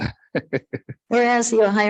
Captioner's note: people chuckle